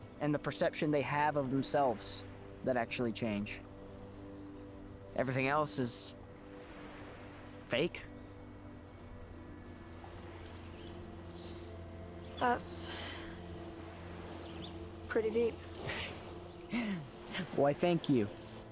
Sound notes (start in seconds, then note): 11.6 inhales; 12.8 exhales; 16.6 chuckles